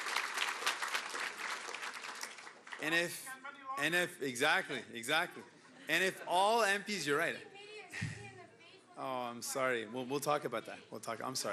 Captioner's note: cheering and Applause